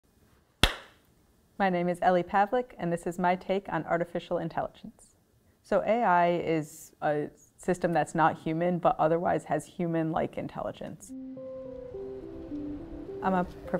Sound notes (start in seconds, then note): 0.6 claps hands; 11.0 soft music